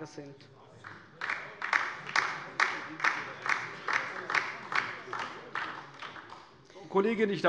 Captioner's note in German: Beifall DIE LINKE